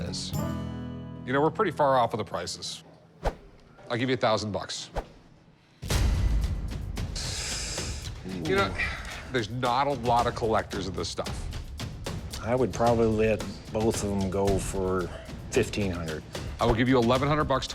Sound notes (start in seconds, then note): 6.5 inhales